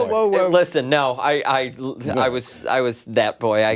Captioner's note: laughter